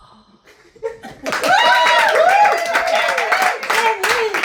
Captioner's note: cheering, applause